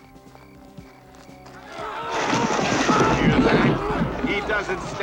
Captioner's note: men yell out, sounds of scuffling